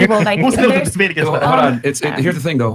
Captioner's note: laughter